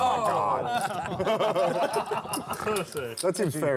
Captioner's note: laughter